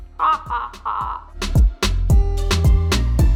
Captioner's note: laughs; soft up beat music